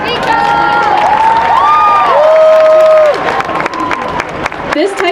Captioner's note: applause